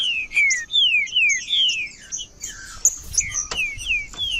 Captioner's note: trinca ferro cantando